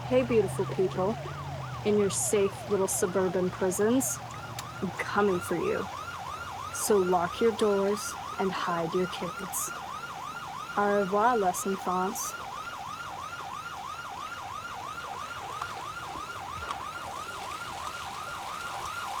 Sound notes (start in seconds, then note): 13.0 sirens wail